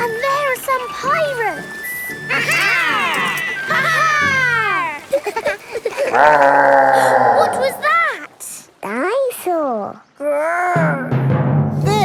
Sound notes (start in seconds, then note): 5.6 growling; 5.7 laughing; 7.5 gasps